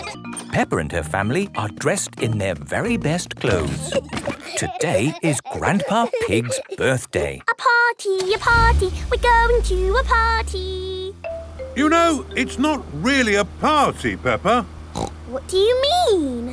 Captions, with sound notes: - Peppa and her family are dressed in their very best clothes. - (giggling) - Today is Grandpa Pig's birthday. - (sing song voice) A party! A party! We're going to a party! - You know, it's not really a party, Peppa. - What do you mean?